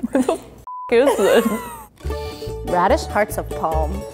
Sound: beep

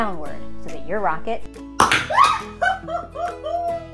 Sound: canister pops; screams

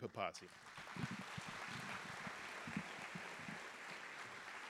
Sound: audience applauding

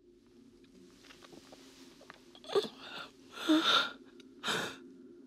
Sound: woman swallowing; terrified breathing

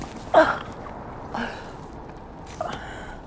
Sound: groaning

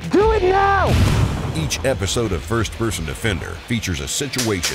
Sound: voiceover

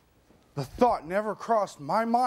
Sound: none

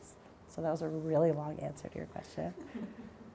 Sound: audience chuckling

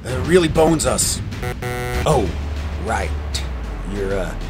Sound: buzzer buzzing

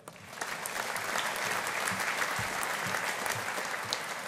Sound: audience applauding

